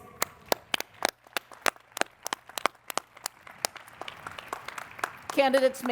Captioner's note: applause